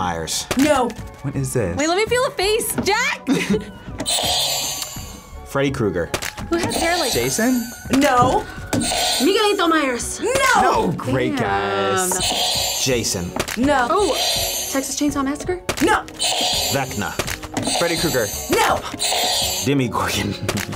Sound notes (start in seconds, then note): 3.2 laughs; 4.0 buzzer rings; 6.9 buzzer rings; 8.9 buzzer rings; 12.2 buzzer rings; 14.4 buzzer rings; 16.1 buzzer rings; 20.1 laughs